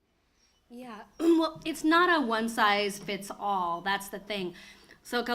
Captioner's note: clears throat